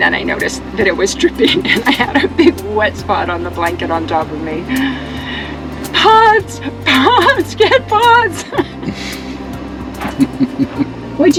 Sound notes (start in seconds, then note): 6.9 laughter